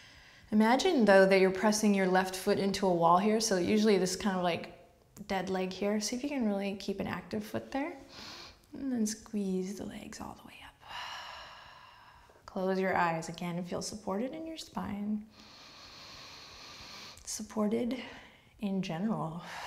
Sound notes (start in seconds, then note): 10.9 exhales; 15.3 heavy breath